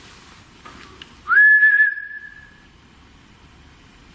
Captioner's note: whistling